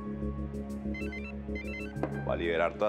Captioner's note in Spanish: Suena un celular